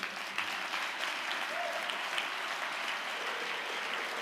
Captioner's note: audience applause